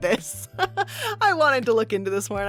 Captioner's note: laughs